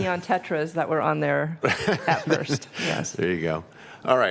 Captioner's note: laughter